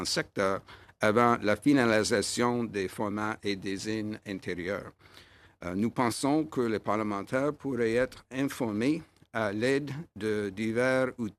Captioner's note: speaking in French